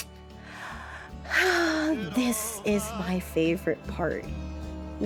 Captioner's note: sigh